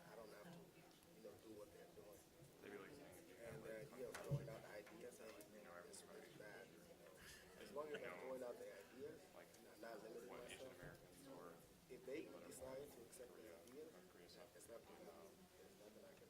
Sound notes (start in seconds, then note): 4.8 students chattering